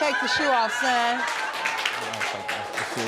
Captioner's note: audience laughing and applauding